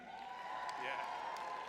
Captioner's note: crowd cheering